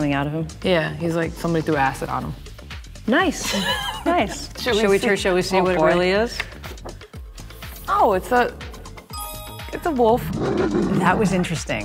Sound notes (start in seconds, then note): 3.4 kali laughs; 10.3 wolf snarling